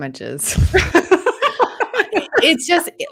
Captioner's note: presenter laughing